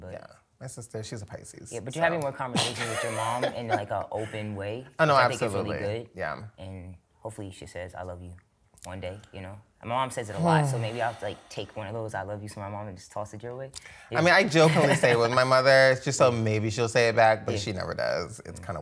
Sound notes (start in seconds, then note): 1.6 laughs; 10.4 sighs; 15.8 laughs